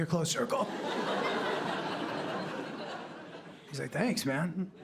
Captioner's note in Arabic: ضحك